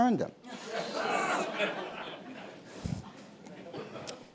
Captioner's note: laughter